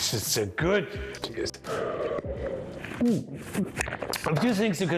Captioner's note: slurps